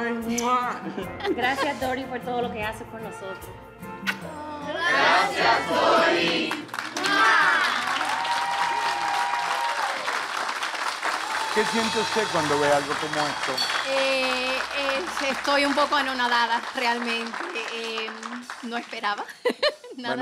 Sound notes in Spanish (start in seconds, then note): 6.7 Aplausos; 7.0 Gritos